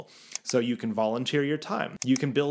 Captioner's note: mouse clicking